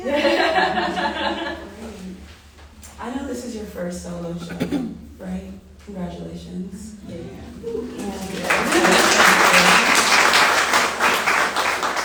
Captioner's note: applause